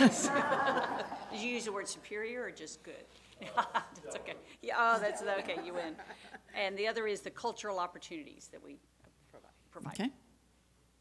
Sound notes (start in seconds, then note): 1.8 laughing